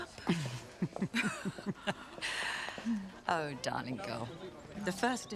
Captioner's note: Margaret laughs